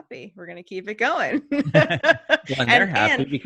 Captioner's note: laughing